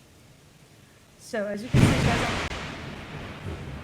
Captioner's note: loud thunder